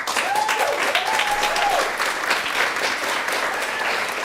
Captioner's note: applause